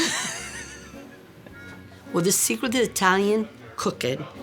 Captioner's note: laughter